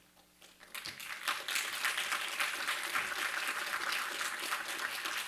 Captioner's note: applause